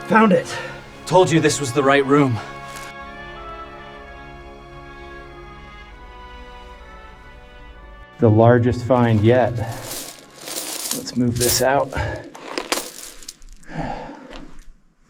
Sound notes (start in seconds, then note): 2.8 instrumental music plays; 9.5 coals scatter; 12.6 bottle thuds